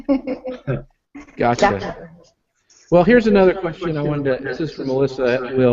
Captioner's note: laughing